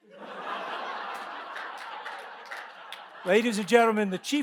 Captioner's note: audience laughs